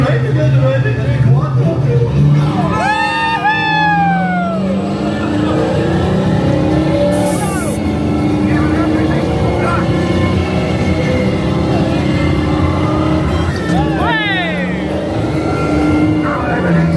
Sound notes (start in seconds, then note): 2.3 riders cheering; 5.6 engine revving